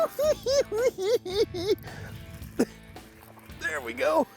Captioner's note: cackling